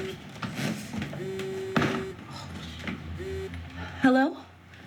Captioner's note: phone vibrates